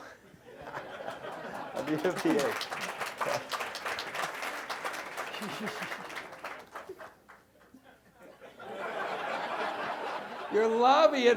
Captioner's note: applause